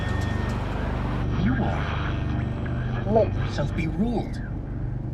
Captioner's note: garbled stations